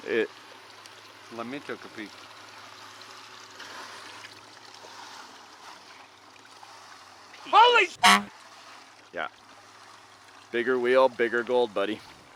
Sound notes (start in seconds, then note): 7.6 honk